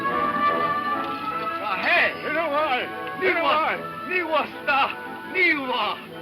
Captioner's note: people speaking in foreign language